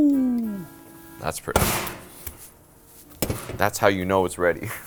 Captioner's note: slams